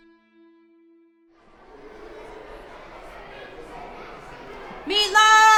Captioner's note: campers faintly chattering